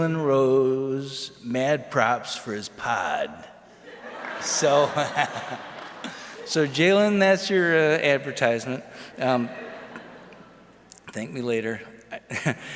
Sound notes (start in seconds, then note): 3.8 audience laughs